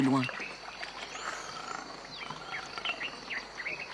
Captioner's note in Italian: cinguettii